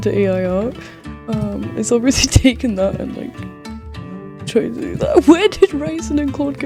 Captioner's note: mumbles